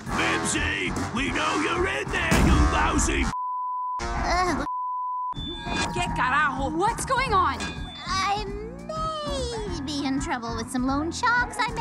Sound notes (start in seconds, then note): 4.6 beep